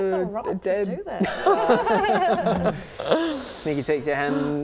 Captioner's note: laughing